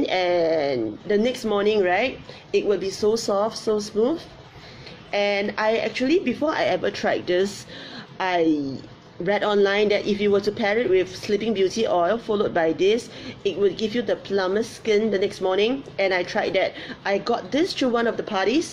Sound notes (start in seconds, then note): none